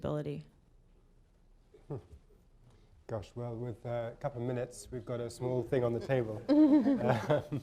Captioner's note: laughter